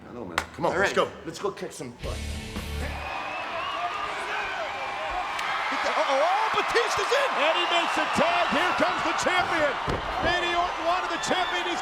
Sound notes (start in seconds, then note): 2.1 upbeat rock music; 3.8 crowd chattering